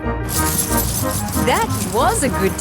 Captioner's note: coins jingling